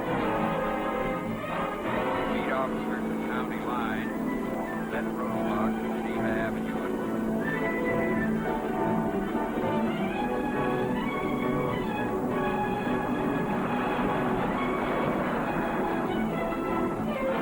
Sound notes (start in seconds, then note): 3.0 on phone